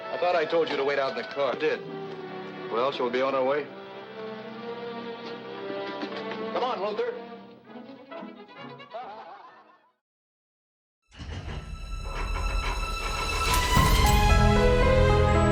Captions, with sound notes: - I thought I told you to wait out in the car? Well, shall we be on our way? - Come on, Luther. (light hearted music) (group laughs) (metal clanging)